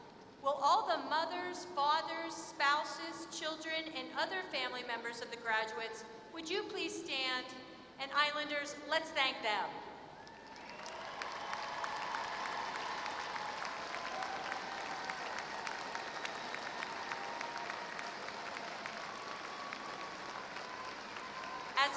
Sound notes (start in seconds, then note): 15.1 applause